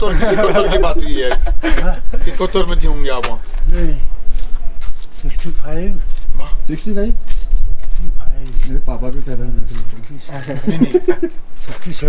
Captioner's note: laughs